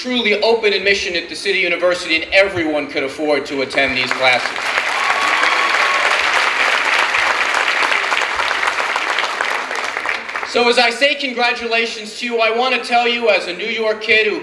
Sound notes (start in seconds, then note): 3.8 clapping